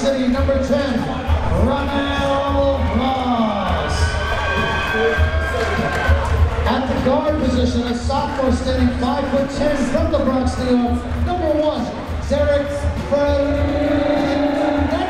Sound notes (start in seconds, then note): 4.1 crowd members cheering